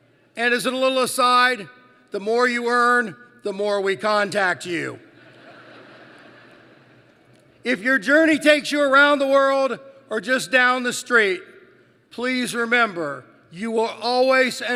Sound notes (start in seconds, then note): 5.2 laughter